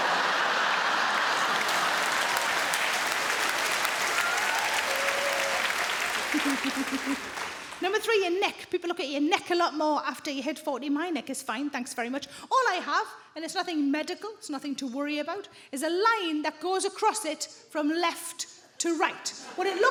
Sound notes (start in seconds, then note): 0.0 audience laughing; 0.0 audience applauding